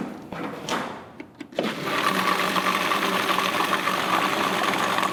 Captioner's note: blender sounds